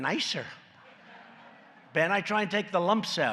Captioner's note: laughter